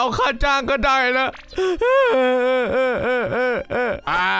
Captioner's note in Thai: เสียงร้องของทุกข์